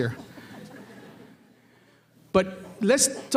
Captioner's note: audience laughter